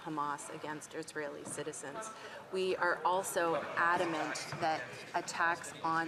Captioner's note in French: voix de l'interprète